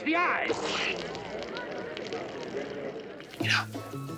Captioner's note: oil splashing